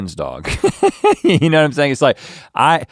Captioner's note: laughs